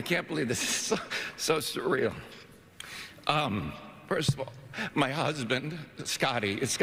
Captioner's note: laughter